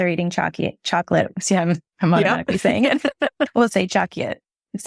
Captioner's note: laughs